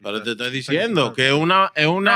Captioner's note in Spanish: Hablando en idioma extranjero